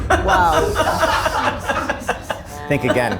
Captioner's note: dramatic music; group laughing